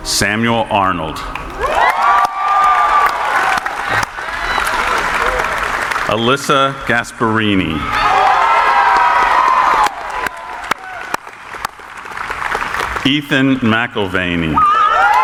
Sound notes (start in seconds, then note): 1.2 cheering; 1.2 audience applauding; 7.6 cheering; 7.8 audience applauding